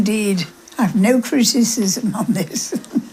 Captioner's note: laughs